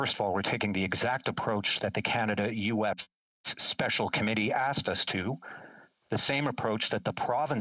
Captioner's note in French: voix de l'interprète